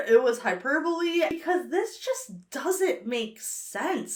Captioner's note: none